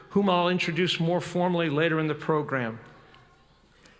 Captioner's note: none